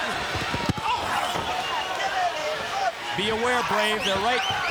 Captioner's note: crowd chatter